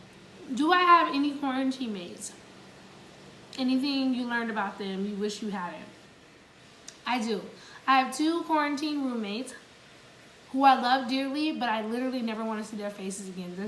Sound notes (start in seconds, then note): none